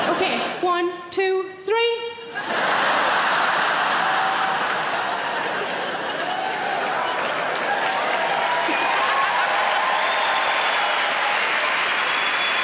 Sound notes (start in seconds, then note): 2.3 crowd laugh; 6.8 crowd cheer